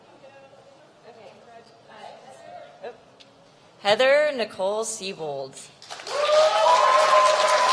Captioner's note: applause